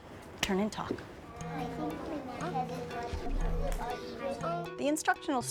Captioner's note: students talking